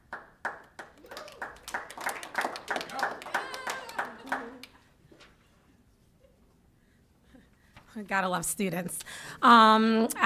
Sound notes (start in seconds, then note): 0.0 applause; 2.6 cheering